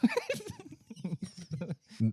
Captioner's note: laughing